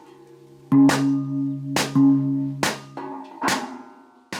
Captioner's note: gong sounds